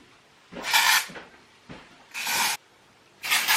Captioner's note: footsteps going up the stairs in the distance